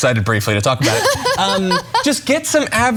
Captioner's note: laugh